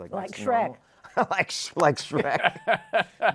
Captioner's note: laughing